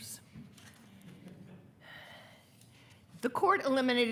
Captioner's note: attendees laughing